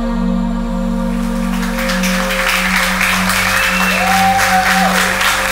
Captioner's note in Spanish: Aplausos